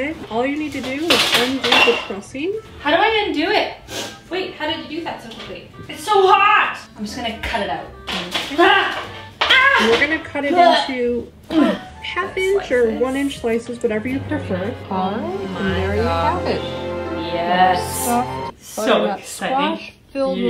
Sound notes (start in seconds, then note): 3.8 sniffs; 9.4 exclaiming